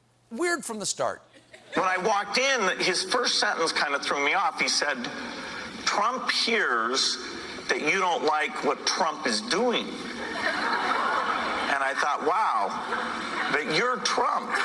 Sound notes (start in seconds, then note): 10.0 laughter